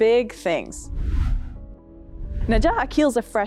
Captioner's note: whooshing